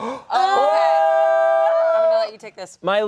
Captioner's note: all yell